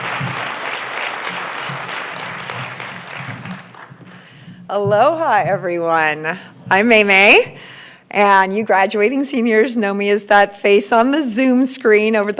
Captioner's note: applause